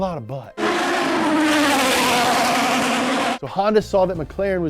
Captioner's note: formula 1 car engine rumbling